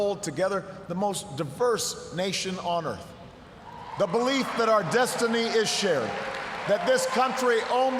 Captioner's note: cheers, applause